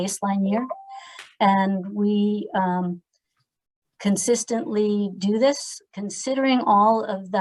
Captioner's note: phone chimes